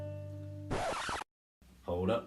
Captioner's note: record scratch